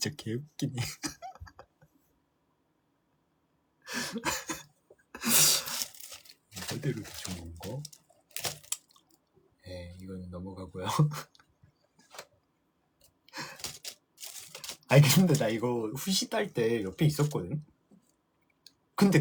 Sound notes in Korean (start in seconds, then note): 4.0 웃음; 5.2 콧방귀